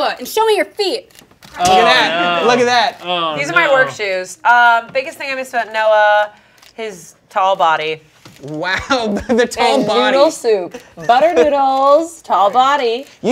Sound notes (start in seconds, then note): 8.8 laughing